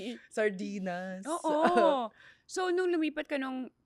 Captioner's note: laughs